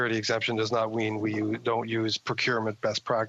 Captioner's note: speaking French